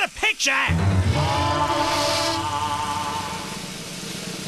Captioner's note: film reel projecting